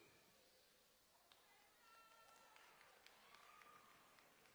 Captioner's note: all applauding and cheering